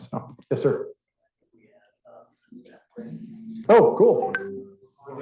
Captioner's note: student speaking faintly